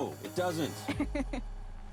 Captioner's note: laughs